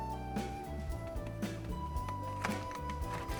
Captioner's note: pat pat